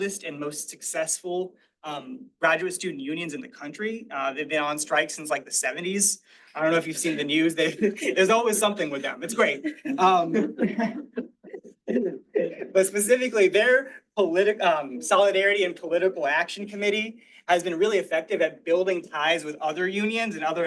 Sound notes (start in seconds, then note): 10.5 all laughing